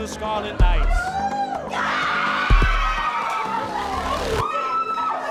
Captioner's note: team cheering